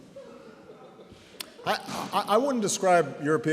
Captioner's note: laughter